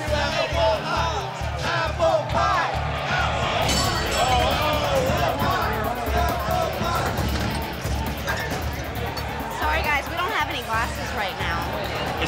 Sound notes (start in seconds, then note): 0.3 crowd shouting; 3.6 glass crashing; 5.1 crowd shouting over woman